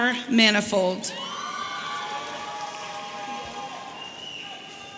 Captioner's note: audience cheering